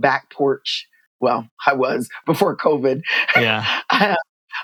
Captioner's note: laughter